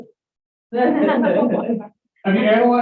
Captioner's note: laughter